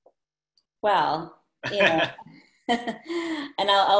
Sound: laughter

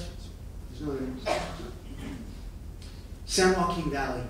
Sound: coughing

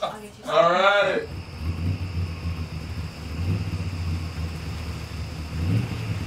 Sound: engine rumbling

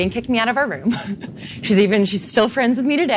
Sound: laughs

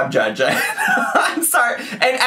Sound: laughing

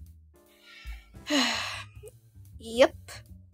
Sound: sighs

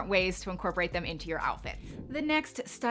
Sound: wind whooshing

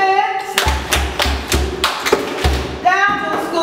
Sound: slapping and clapping

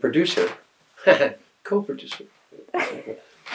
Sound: heh-heh

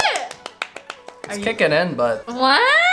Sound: clapping

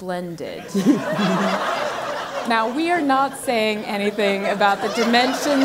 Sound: laugh

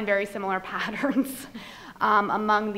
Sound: laughs

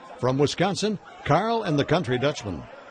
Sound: voiceover

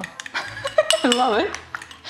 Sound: laughs

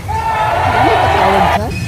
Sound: booing

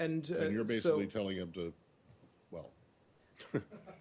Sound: laughter

